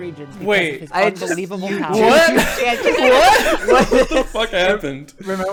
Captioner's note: everyone starts laughing